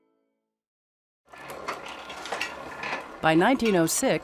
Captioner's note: machines clicking